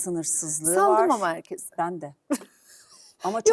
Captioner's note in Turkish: kahkaha